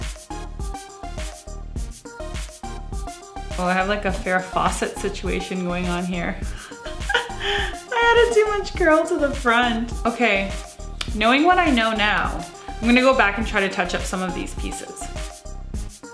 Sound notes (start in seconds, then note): 0.2 cheerful music; 6.6 laughs